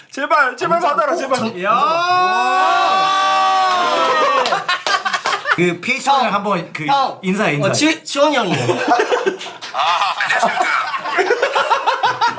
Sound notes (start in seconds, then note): 8.5 ahahaha